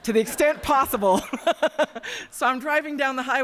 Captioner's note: laughter